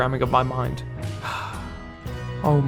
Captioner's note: sigh